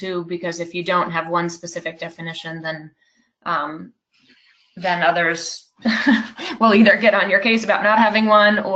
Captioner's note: laughs